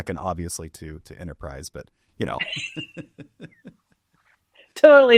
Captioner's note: laughs